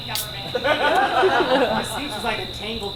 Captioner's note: audience laughs